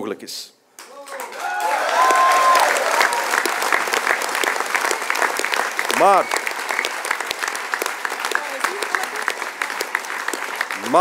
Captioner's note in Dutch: applaus